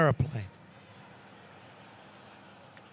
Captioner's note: laughter